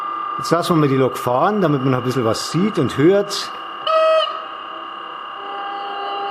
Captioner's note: horn